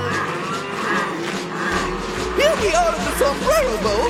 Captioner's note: all grunting